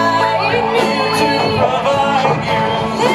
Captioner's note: echoes